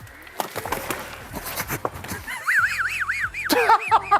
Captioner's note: thudding; laughter